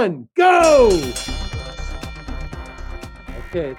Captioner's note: bell ringing